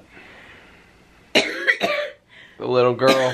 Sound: coughing

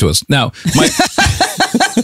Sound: laughs

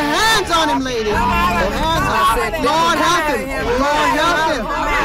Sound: ladies praying loudly

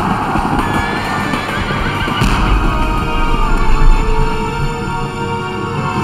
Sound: horse neighs; guns fire

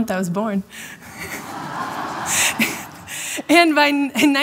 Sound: laughter

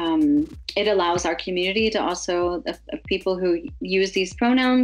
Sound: stammers

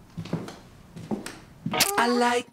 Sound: footsteps; hip hop music

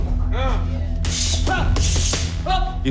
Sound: both grunting

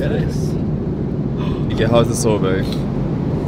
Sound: gasps

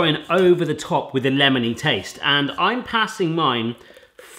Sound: none

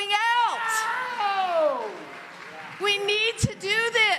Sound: congregation lauds

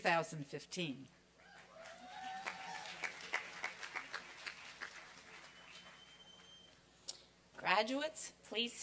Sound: applause and cheering

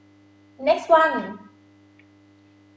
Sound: talking in foreign language

